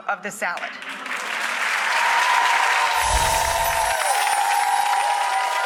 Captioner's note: audience cheering and clapping